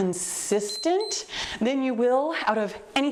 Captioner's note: timer beeps